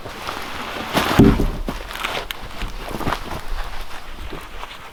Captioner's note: log thudding